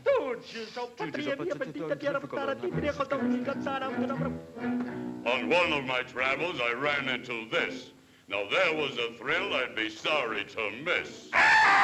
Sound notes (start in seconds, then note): 1.0 both grumbling in foreign language; 11.3 bird squawks